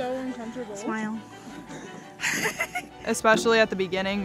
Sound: laughs

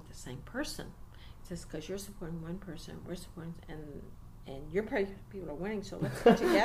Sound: laughs

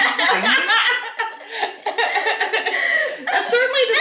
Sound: family laughing

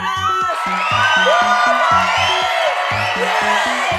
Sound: crowd cheers

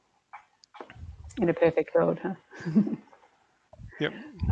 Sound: laughs

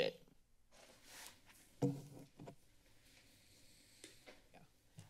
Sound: silence

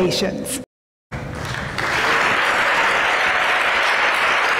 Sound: applause

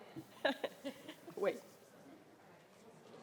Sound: laughs

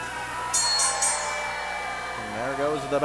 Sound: bell ringing

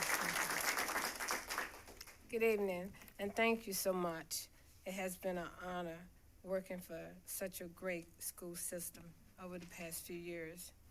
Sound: applause

